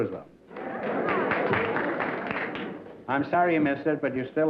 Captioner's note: applause